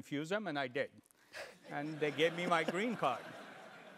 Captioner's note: laugh